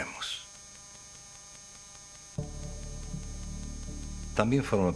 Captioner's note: static